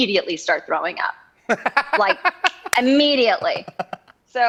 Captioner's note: laughing